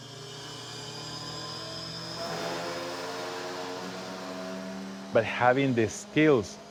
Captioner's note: cnc machine whirring